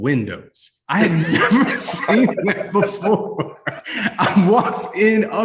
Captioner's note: panelists laugh